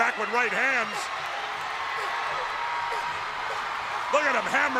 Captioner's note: crowd cheering